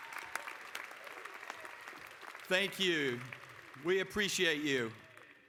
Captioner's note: applause